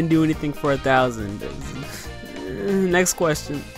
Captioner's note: irritated mumbling